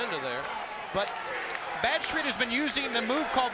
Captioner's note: crowd cheering